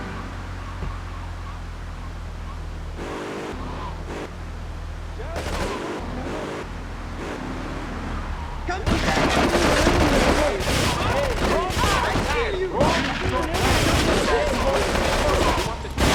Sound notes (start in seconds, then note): 3.3 ominous music; 8.8 gunshots; 11.0 muffled yelling; 12.2 gunshots